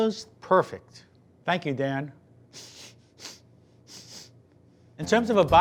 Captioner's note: sniffing